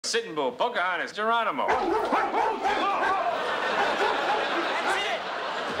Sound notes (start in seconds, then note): 1.6 vicious barking; 1.6 yells